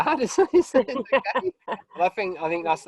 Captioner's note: both laugh